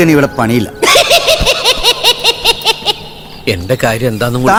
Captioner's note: Cycle laughs